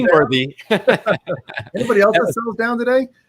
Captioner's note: laughs